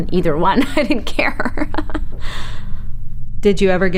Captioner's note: laughs